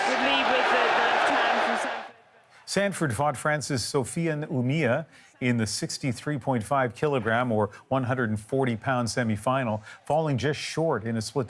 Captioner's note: cheers and Applause